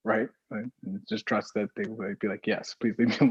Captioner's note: laughs